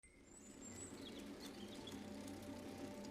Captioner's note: birds chirping